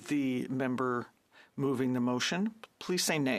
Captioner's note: speaking French